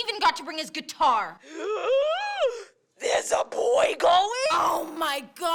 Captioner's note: gasp